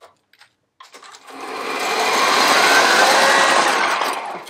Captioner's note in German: Spindelgeräusche bei höherer Geschwindigkeit